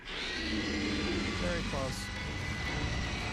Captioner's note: screeches